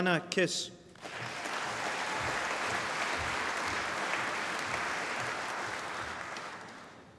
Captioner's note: applause